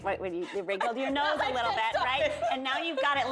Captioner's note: laughs